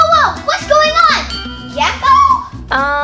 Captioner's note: ding